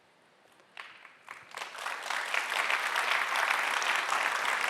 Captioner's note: audience applauding